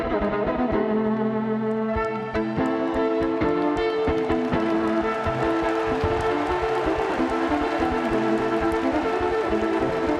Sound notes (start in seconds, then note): 2.6 audience applauds and cheers